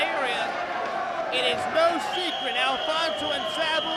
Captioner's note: whistling